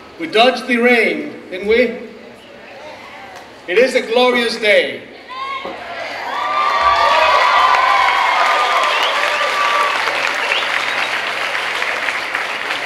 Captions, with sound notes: We dodged the rain, didn't we? It is a glorious day. (cheering and clapping)